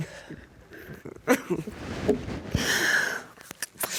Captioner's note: sobbing